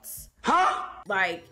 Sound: voiceover

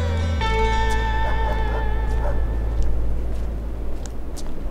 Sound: dog barking

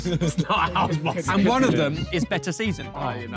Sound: Blue Team laughing

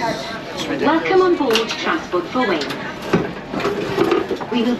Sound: automated announcement in background

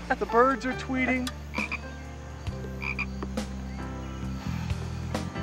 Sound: frog singing

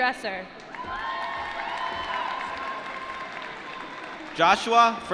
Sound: applause

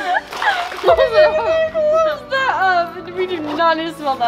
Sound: speaks while holding her nose

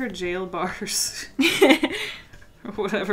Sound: both laugh

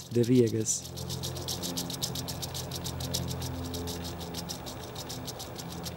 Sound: rattling

